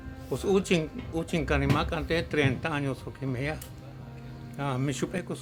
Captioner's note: continues speaking in Mayan